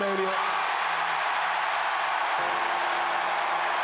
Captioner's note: crowd cheers